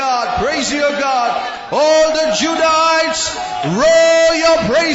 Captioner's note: చప్పట్లు